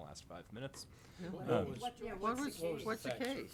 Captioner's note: board members chattering